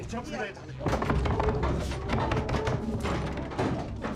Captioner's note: banging on door